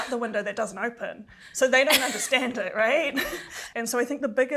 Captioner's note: chuckles